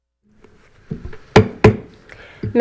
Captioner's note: gavel hitting dais